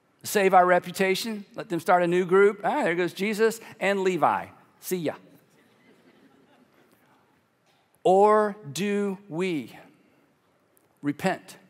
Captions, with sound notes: "save our reputation? "Let them start a new group? "There goes Jesus and Levi, see ya." (congregation laughing) "Or "do "we "repent